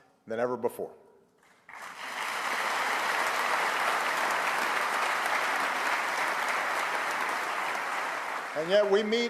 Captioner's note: applause